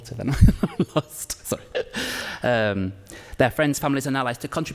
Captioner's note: laughs